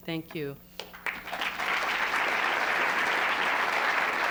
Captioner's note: applause